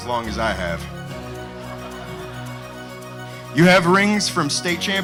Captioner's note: crowd laughing